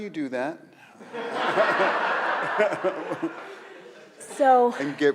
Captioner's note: audience laughs